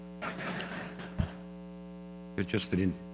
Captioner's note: audience laughter